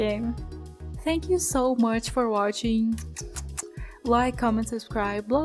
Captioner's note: kiss noises